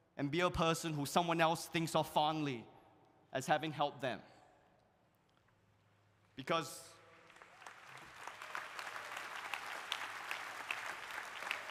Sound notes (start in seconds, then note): 7.1 audience applauding; 7.3 audience cheering